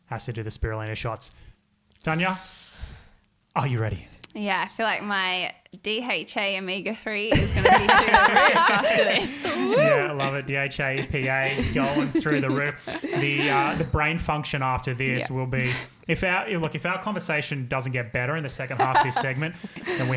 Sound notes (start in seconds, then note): 8.6 all laughing